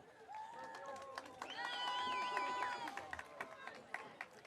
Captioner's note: audience cheering